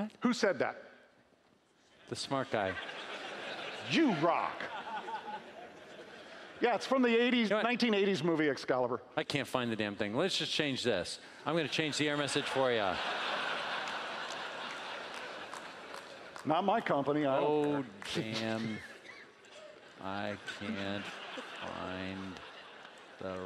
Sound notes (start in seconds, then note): 12.3 laughing